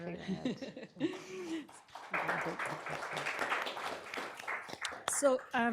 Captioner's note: applause